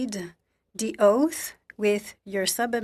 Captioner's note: speaking French